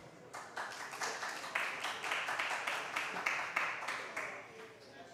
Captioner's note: applause